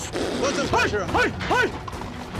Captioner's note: shouting